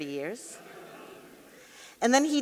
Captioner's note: audience laughing